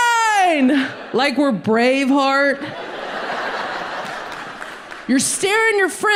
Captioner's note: audience laughs